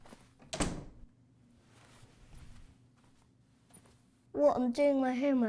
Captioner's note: door clicking